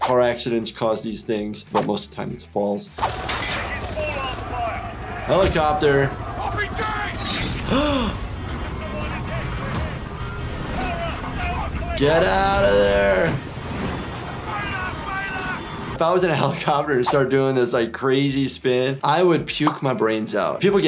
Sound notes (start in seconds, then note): 7.6 gasping; 13.5 alarm blaring